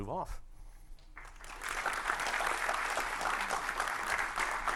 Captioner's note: audience clapping